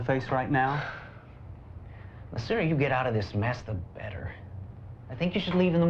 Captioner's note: sighs